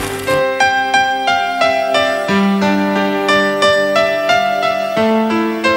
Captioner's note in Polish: Aplauz